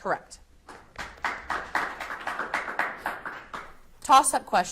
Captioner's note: audience applauds